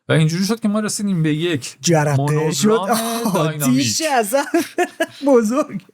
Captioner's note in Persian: خنده